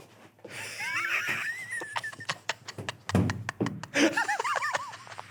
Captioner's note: laughing